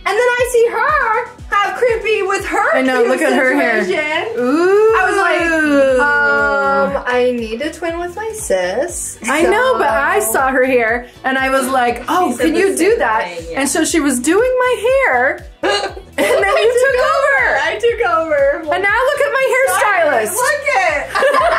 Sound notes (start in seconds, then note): 15.6 laughing; 21.0 all laughing